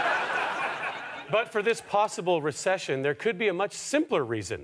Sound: audience laughter

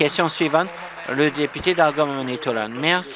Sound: applause

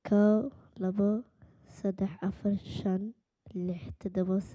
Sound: speaking Somali

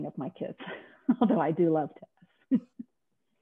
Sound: laughing

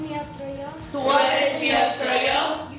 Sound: whole class speaking

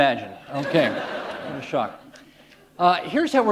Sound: laughter

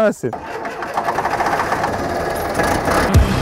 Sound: engine starts

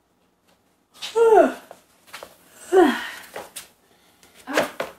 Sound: yawns

